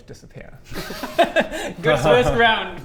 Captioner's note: unsympathetic laughter